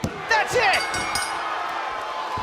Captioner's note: bell; cheers & applause